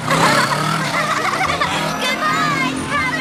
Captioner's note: laughing